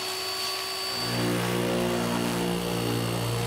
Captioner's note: loud whirring and roaring